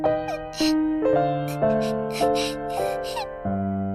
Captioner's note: whimpering